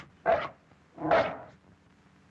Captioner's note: barks